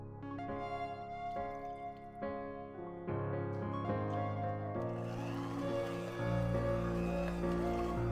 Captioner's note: stirrer